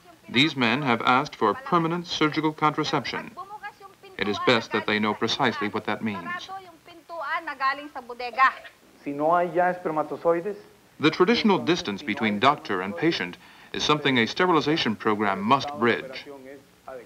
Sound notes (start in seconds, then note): 6.8 non-English speech; 9.1 man speaking Spanish